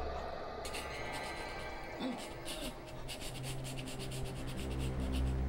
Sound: panicked Breathing

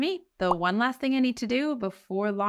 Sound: text overlay blooping

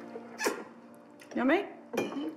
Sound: slurps

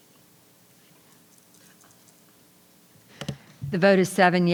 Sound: equipment rattling; jewelry rattling; members whispering

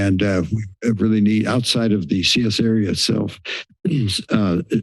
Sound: clears throat

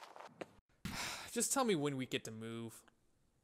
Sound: sigh

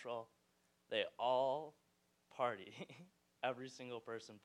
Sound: laughing

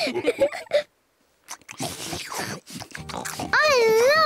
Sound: all laugh; all munch

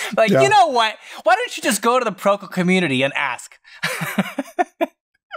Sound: laughter

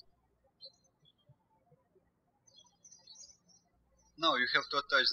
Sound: birds chirping

